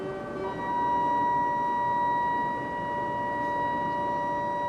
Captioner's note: whistle sounding